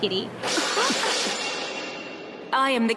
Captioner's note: edgy sound effect